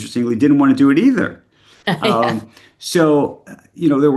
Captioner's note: laughs